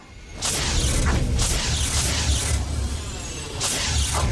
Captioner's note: flames whooshing